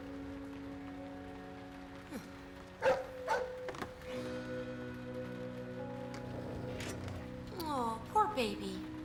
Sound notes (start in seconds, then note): 2.8 Larry barks; 6.3 growls